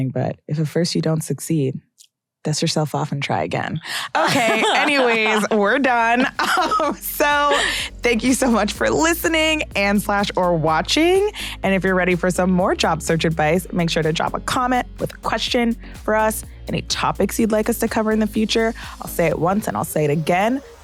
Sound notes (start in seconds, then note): 4.1 chuckles